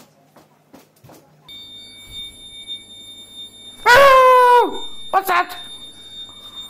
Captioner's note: alarm screaming